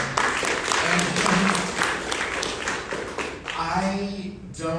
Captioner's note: audience applauding